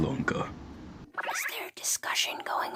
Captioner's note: Jibanyan whispers